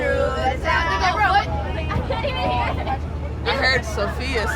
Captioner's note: students chattering